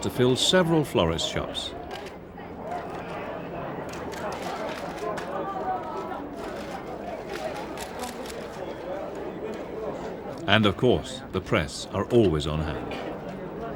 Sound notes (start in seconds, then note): 2.6 chattering; 2.9 cameras clicking; 13.5 distant chattering